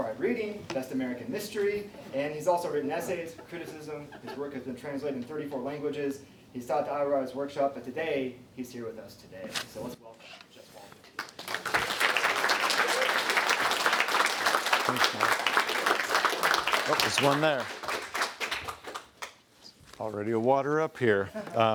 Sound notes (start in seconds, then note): 11.1 clapping; 21.1 laughs